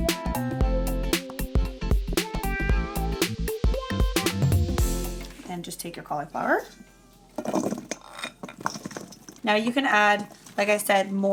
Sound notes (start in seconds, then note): 0.0 upbeat music; 7.4 cauliflower thudding